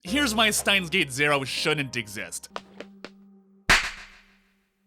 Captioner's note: slap